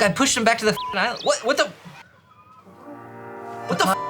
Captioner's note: beep